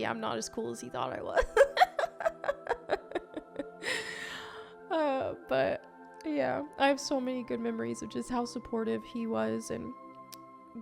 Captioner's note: laughs